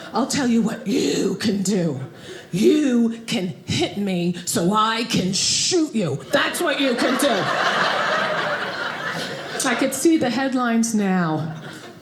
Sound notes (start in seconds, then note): 8.0 audience laughing